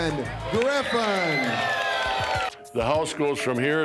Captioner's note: crowd cheering